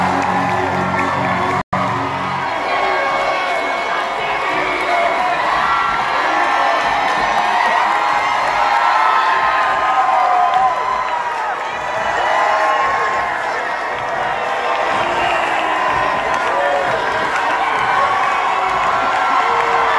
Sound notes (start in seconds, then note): 0.0 cheering; 2.5 crowd; 7.5 cheering